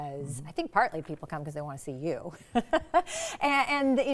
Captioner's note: laughs